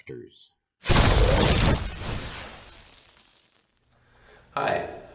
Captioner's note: sound Effects